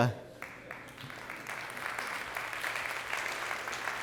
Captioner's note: audience clapping